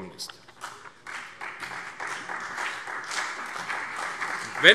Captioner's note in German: Beifall CDU und BÜNDNIS 90/DIE GRÜNEN